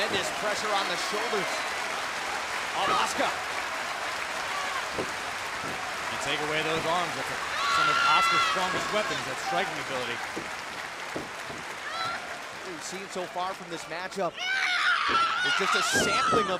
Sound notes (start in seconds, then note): 0.2 crowd cheering; 12.6 crowd cheering